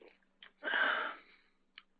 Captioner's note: sighs